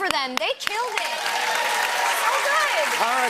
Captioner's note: cheers and applause